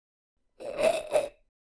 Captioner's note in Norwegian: Urkh